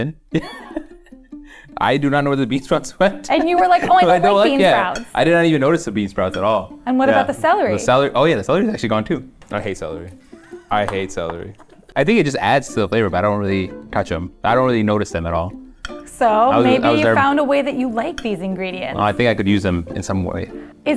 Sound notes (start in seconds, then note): 0.3 laughs; 3.2 laughing